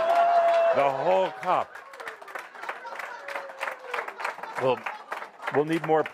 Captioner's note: audience applause as lap